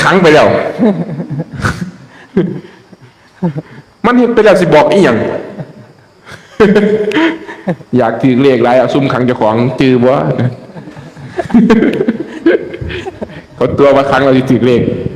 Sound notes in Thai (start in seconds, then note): 6.4 เสียงหัวเราะ